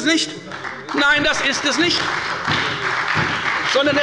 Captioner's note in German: Beifall bei der FDP und der SPD